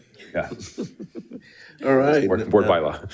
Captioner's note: board Members laughing